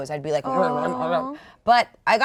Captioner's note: shivering